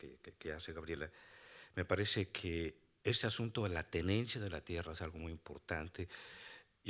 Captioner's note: speaking Spanish continues